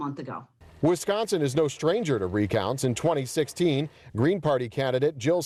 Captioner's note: voiceover